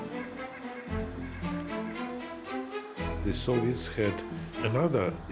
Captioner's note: none